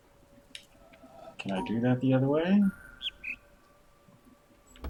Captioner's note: bird chirps high-low